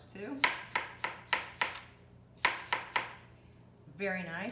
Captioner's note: chopping